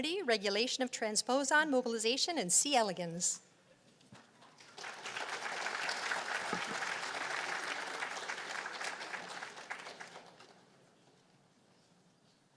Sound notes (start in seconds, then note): 4.5 applause